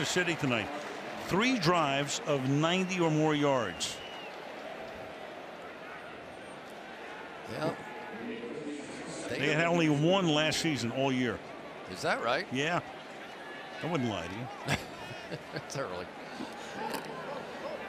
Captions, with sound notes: What about Kansas City tonight? Three drives of 90 or more yards. Yep. They had only one last season all year. Is that right? Yeah. I wouldn't lie to you. [chuckles] It's early.